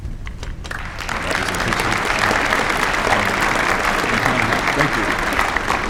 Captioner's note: applause